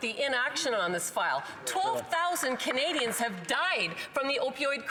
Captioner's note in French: voix de l'interprète